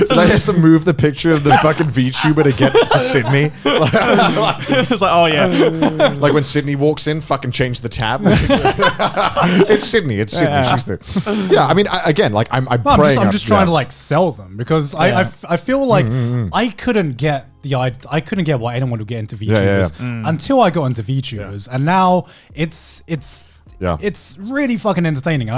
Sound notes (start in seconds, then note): 3.3 laughs; 9.1 laughs